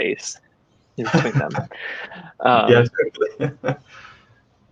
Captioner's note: laughing